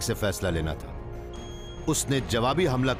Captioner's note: computer beeps